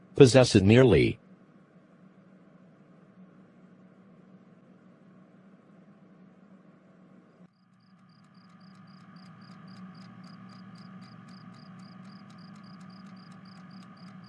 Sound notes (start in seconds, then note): 7.8 refrigerator humming, crickets chirping